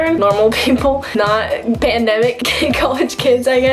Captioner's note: chuckling